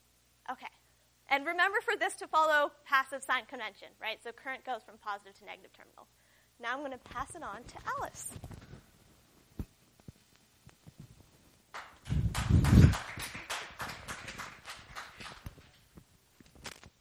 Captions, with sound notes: And remember for this, to follow passive sign convention. So current goes from positive to negative terminal. Now I'm going to pass it on to Alice. [APPLAUSE]